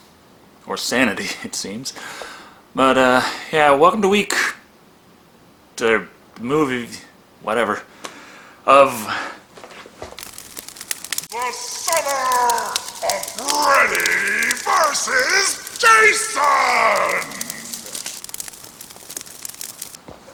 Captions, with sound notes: Or sanity it seems, but uh yeah welcome to week te-... movie... whatever [Distorted] The Summer of Freddy vs Jason!